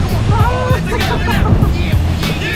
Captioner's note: childish Laughter